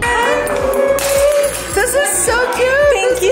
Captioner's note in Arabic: تحطم زجاج